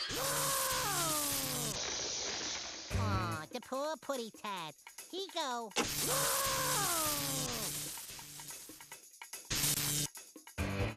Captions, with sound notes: [screaming] AH, THE POOR PUSSYCAT. HE GO... [Sylvester screaming] [electric buzzing]